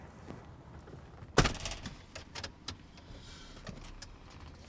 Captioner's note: van door slamming